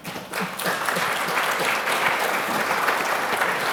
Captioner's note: applause